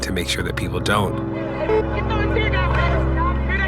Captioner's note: protesters chanting